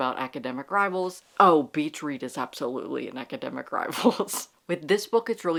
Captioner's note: laughing